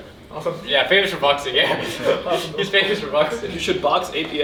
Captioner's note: laughing